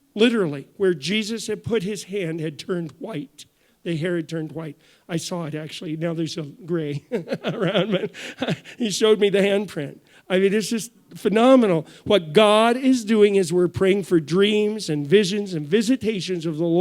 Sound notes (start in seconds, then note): 7.0 chuckles